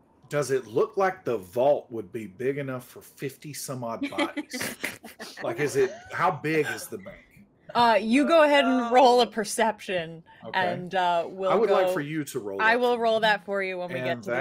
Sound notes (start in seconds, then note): 4.0 group laughing